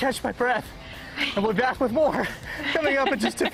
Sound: laughter

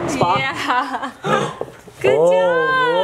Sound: laughing

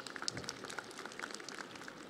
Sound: audience applauding

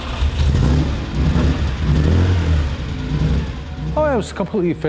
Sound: engine rumbles

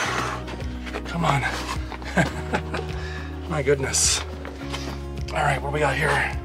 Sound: laughter

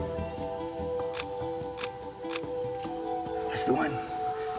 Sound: camera clicks

